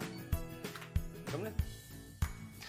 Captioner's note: the door opens